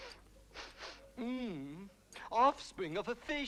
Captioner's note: Rothrar sniffing; Rothrar groans